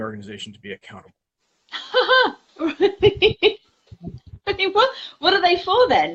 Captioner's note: laughs